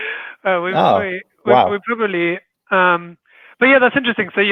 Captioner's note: chuckles; murmurs